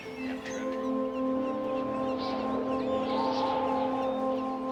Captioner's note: wind blows